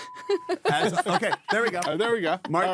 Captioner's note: laughing